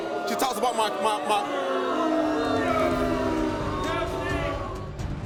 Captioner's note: crowd booing; dramatic music